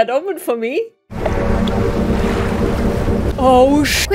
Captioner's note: distorted fog horn